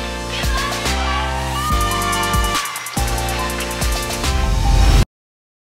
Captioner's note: light music; crowd cheering